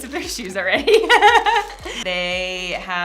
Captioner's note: laughing